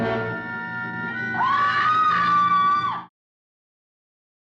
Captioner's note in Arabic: موسيقى مشوقة; الشخصية تصرخ